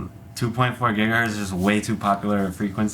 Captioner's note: none